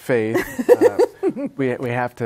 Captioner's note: laughs